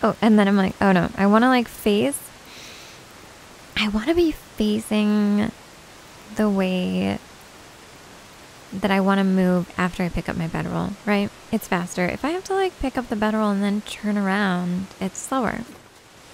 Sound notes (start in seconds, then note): none